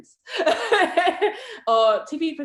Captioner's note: laughs